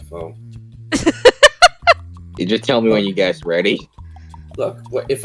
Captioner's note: laughs